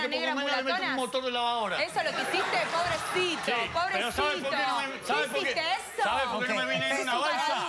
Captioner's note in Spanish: Risotadas